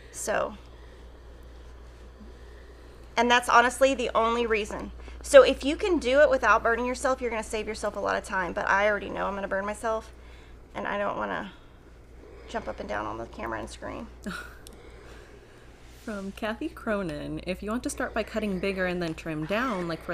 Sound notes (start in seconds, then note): 14.2 chuckling